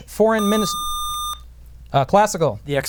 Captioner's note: buzzer